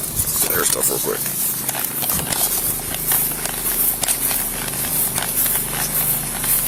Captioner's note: officer shuffles across lawn